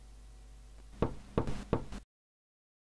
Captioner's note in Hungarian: kopogás